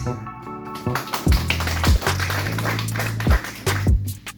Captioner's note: clapping